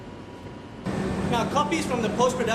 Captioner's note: loud background static